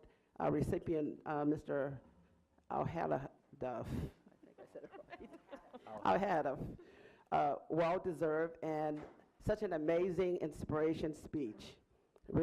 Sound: laughing

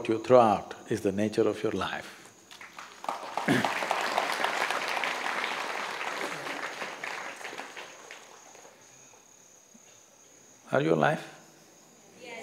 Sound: applause

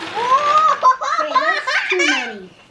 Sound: laughs

